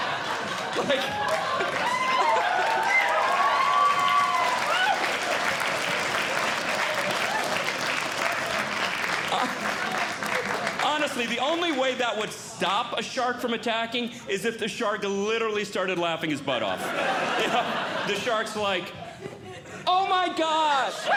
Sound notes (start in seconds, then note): 0.0 audience Laughing; 2.7 audience Cheering; 16.7 audience Laughing; 20.9 laughing